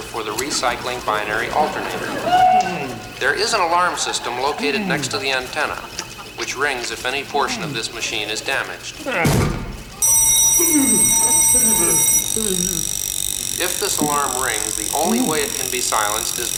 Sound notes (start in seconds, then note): 2.1 audience laughs; 9.1 Muppet groans; 10.0 bell ringing